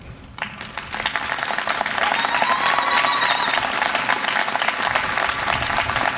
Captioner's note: audience applause and cheer